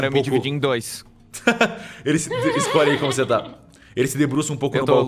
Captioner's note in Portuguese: risadas